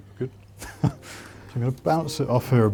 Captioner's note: laughing